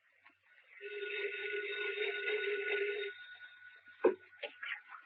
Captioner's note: telephone ringing